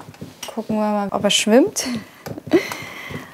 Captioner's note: laughing